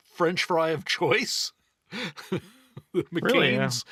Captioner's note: laughing